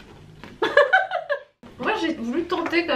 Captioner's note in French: rires